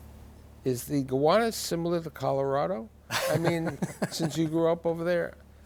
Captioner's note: guests laugh